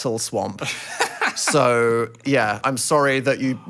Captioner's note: laughs